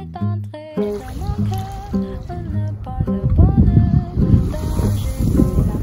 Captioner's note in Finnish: pienten kivien takia aaltojen ääni on hyvin erikoinen